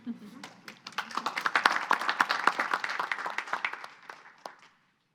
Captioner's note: audience applauding